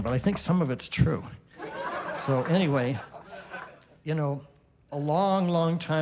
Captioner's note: laughter